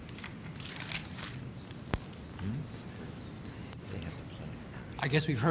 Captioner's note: whispers